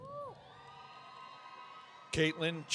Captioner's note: audience cheering